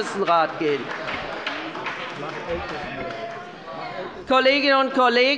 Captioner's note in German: Beifall bei der SPD